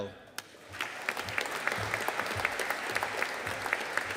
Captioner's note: audience applauding